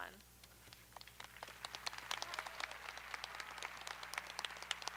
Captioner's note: audience applauding